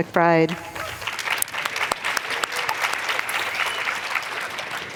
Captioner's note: applause